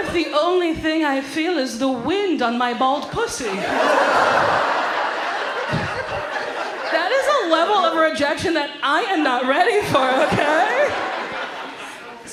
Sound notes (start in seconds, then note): 3.4 audience laughs; 10.0 audience laughs